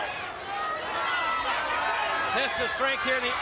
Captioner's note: crowd cheers